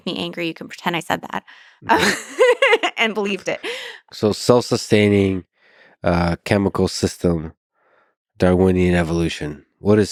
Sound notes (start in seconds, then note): 1.8 laughs